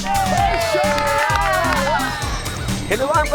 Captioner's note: family cheering